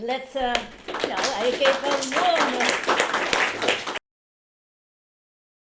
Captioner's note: applause